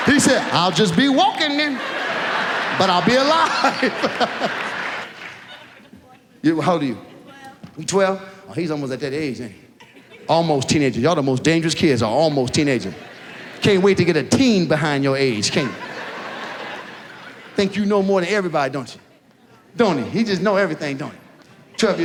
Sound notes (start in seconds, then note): 3.8 laughs; 4.3 audience laughs; 15.2 audience laughs